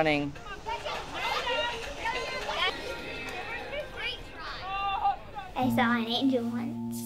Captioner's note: children shouting and laughing